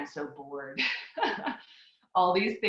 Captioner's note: laughs